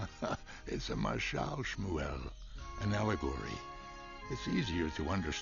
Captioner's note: laughs